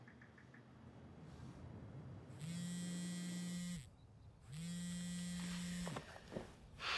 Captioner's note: phone buzzes; sighs